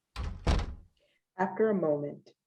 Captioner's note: door closes